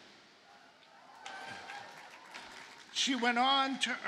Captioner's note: audience cheers and applauds